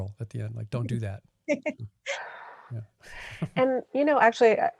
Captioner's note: laughing